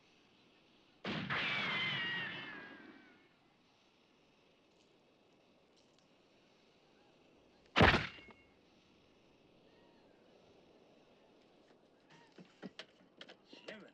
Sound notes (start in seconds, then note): 1.0 gun fires